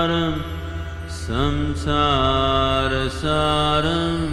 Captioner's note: none